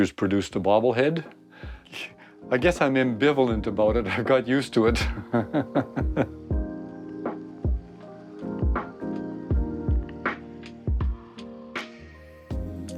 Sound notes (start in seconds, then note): 4.9 chuckling; 6.9 lively music